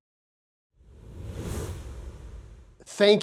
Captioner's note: air whooshing